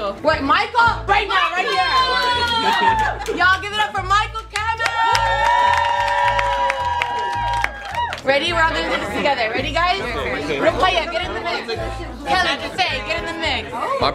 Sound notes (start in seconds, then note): 4.7 cheering; 5.0 clapping